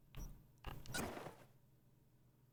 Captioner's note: footsteps